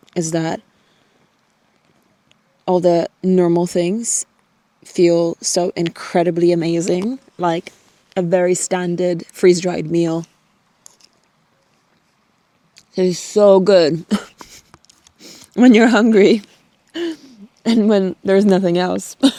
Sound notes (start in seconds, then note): 14.1 chuckles